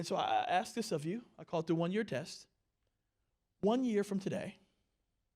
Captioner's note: none